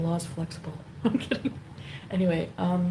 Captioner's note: chuckling